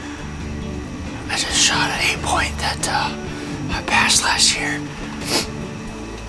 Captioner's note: whispering